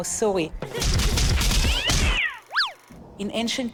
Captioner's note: cat yelling